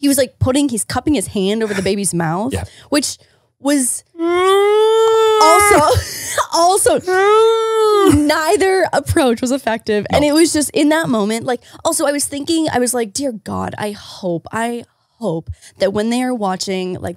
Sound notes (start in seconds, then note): 4.2 impersonating baby crying